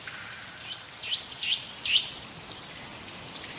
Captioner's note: bird call